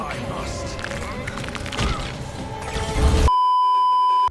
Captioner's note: bone cracking sounds that're impossible to unhear; beeeeeeeeeeeep